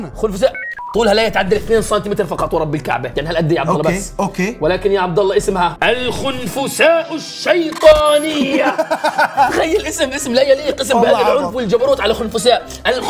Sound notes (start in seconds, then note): 8.3 laughs